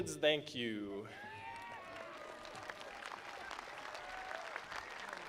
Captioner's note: attendees applauding